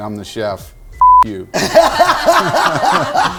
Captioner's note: beep